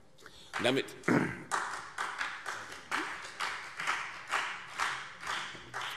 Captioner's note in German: Beifall CDU und BÜNDNIS 90/DIE GRÜNEN